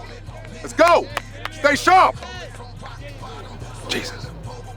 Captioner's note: Stan clapping